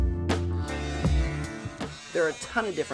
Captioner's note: multi-tool whizzing